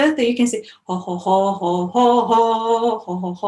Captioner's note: humming